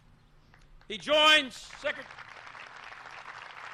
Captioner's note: applause